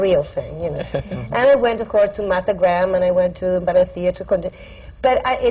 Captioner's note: laughter